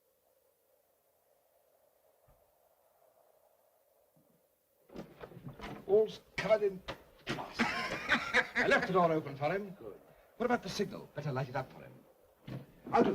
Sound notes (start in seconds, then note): 4.9 door opens; 7.4 Joss laughs